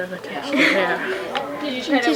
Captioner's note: chuckles